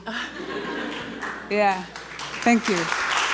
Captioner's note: audience laughter